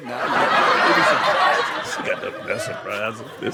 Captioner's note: audience laughs